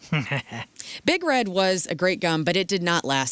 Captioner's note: chuckles